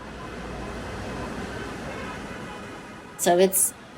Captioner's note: cars honking